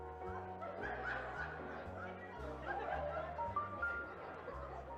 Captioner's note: attendees laughing